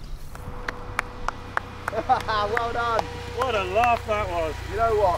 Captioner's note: claps